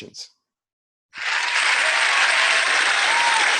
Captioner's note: applause